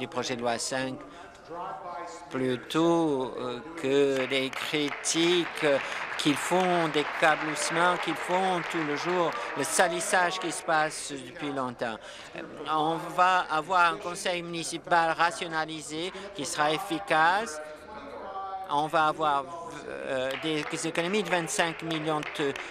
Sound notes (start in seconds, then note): 9.4 applause